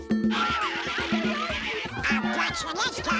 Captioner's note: laughing